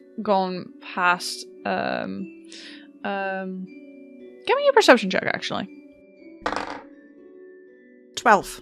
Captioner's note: dice clattering